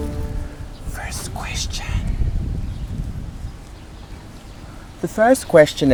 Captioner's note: whispering